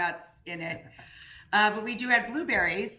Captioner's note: laughing